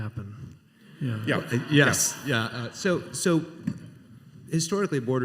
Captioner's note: laughter